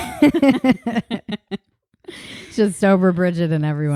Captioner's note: both laughing